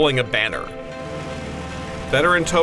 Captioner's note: plane engine running